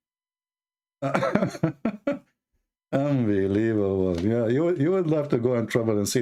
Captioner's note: Ketawa